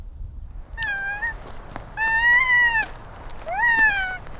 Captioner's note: babbling